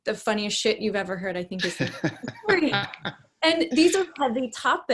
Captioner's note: laughing